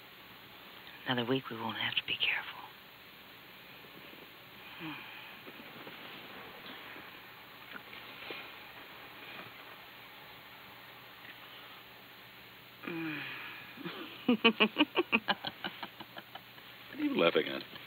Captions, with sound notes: Another week we won't have to be careful. Mmm. Mmm. (laughter) What are you laughing at?